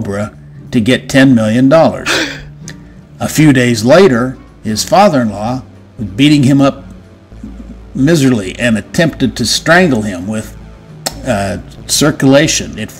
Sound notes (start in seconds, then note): 2.0 shocked Gasp